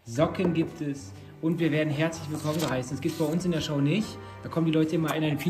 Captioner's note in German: none